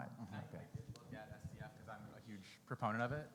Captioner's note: speaks faintly